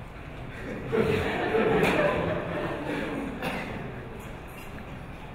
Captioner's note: audience laughing softly